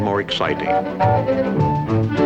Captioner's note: locomotive whistle blows